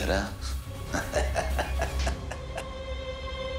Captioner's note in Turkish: Gülüyor